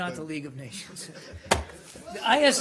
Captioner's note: laughter